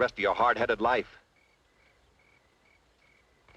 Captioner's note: crickets chirping